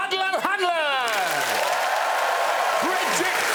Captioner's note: cheering and applause